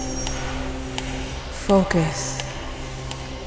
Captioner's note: metronome ticking